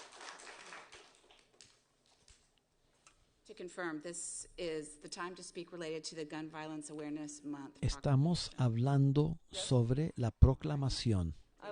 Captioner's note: applause